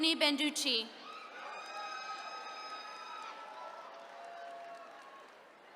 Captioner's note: attendees cheering